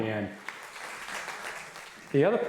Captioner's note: applauding